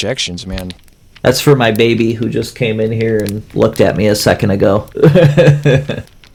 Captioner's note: laughs